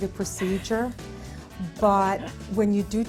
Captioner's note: chuckling